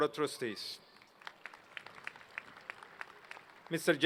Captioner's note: applause